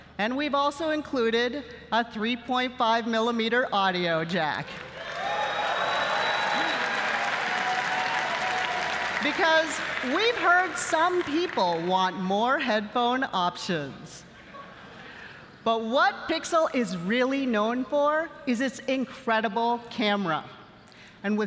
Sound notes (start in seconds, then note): 4.7 applause